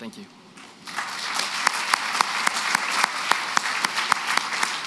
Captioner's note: applause